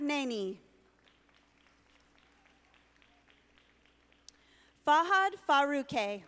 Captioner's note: audience applauding